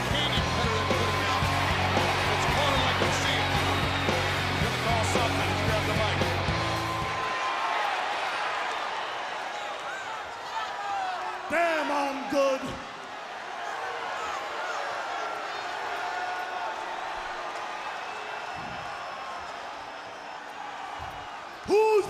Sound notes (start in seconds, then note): 7.3 crowd chatter; 13.4 crowd chatter